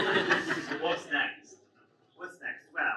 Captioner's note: audience laughs